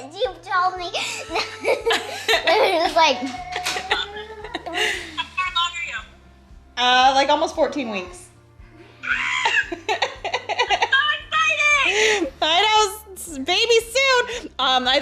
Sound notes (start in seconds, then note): 2.0 chuckles; 9.0 screams